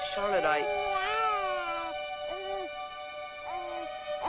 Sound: baby crying

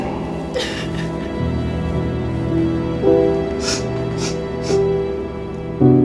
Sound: melancholic music; Narcissa crying

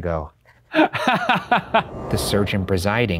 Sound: laughs

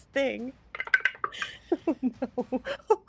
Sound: dice clatter

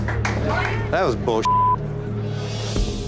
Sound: cheering and clapping; beep

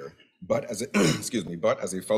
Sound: coughs

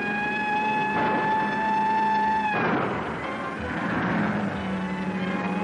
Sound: gun fires; police siren blaring; gun fires

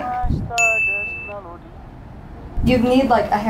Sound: bell dinging

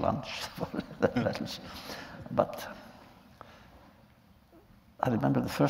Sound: laughter

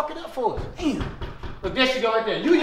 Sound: knocking loudly

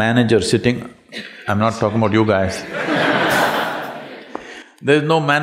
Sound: laughter

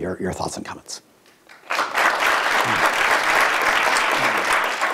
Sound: audience applauds

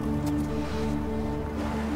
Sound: hooves clopping; brush rustling; water babbling

